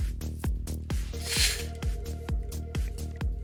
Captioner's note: breathing